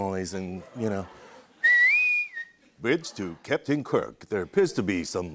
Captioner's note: whistles